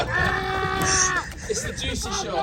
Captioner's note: all laughing; homeless man yelling